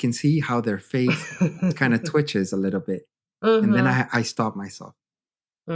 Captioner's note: laughter